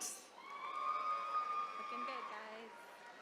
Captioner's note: attendees cheering